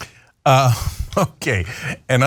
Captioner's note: laugh